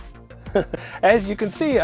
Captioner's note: chuckle